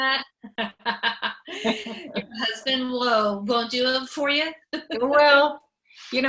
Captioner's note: laughs